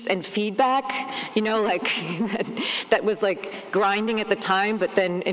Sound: laughs

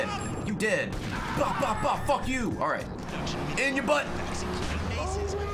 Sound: gun noises

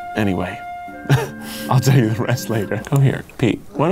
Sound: chuckles

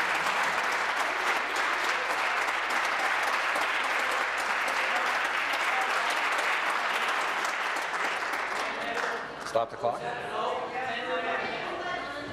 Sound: applause

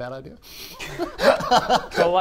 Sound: laughs

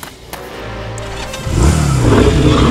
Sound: engine revving; growling

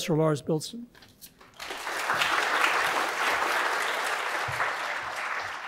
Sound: audience applauds

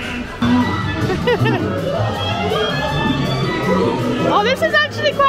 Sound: laughing

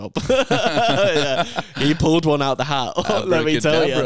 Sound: laughs

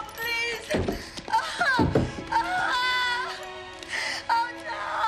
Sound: crying

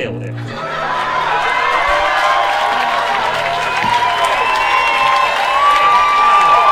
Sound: audience cheering and clapping

